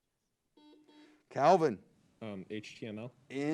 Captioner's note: buzzer beeps